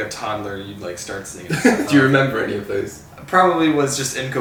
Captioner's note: laughs